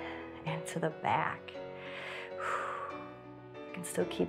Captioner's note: inhales and exhales